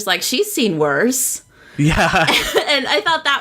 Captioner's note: laughs